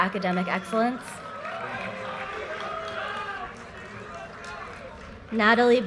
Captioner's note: audience cheers and applause